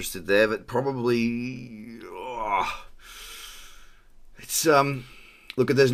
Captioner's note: scoffs